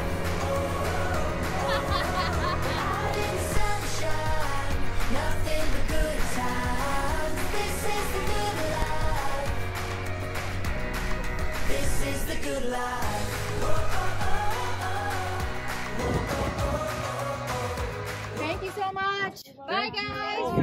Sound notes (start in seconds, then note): 1.4 laughing